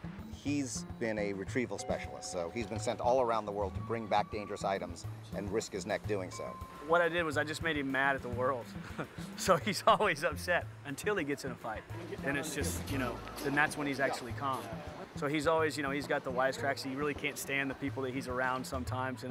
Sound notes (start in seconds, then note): 8.8 laughing